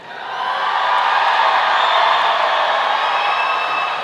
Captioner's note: audience cheering